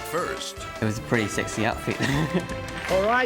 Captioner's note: laughs